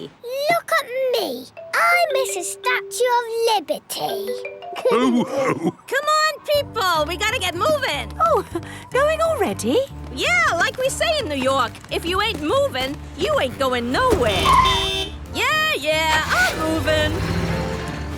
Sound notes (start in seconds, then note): 4.8 all laughing; 14.0 honking